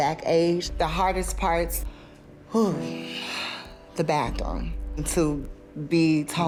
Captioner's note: sighs